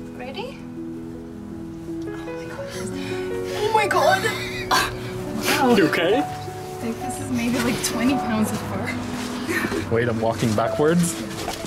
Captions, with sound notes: Ready? Oh my God, that's, oh my God. [Laughter] Wow. You okay? I think this is maybe like 20 pounds of fur. [Laughter] Wait I'm walking backwards. Yeah.